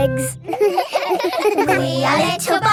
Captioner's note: all giggling